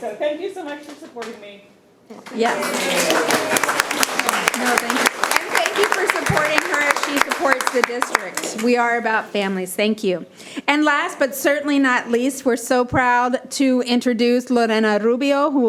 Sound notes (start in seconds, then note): 2.2 people clapping